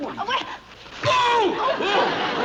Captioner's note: screams